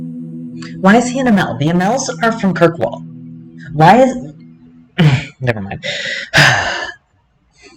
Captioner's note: noise of irritation